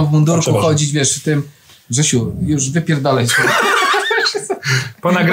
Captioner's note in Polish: śmiech